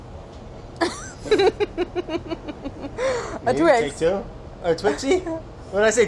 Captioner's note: laughs